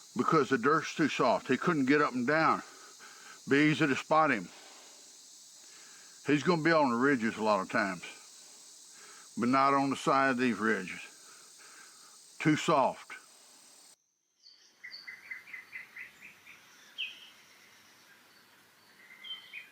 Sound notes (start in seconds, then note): 14.5 birds chirping; 16.4 insects chittering